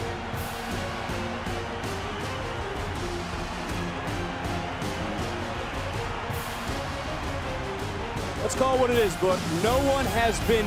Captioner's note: crowd cheers